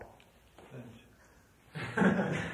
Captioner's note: laughter